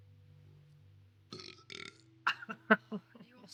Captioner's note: Sam belching; Sam laughing